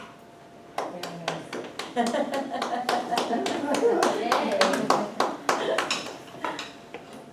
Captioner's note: audience clapping